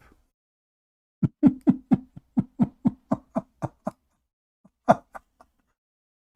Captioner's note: Ketawa